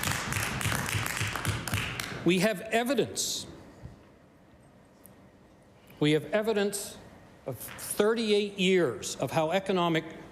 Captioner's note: applause